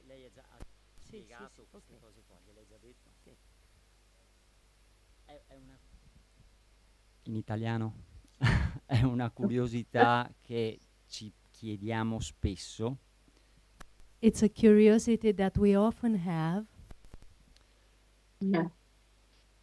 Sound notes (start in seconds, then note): 7.3 Italian speaking